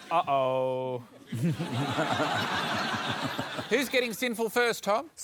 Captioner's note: laughter